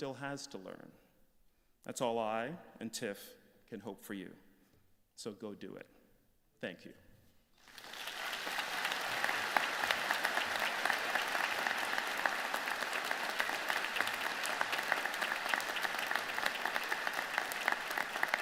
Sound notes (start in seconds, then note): 7.3 applause